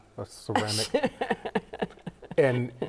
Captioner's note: chuckles